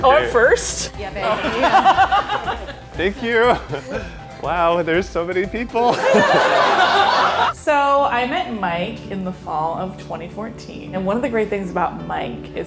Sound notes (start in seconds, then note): 1.2 laughing; 5.9 laughing